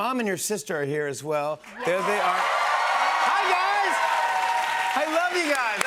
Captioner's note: cheers and applause